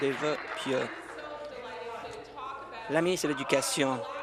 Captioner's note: applause